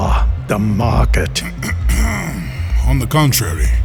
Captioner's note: Lapadine clears throat from behind